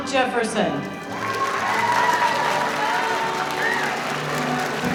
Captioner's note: audience applauding